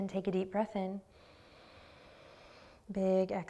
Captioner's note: inhaling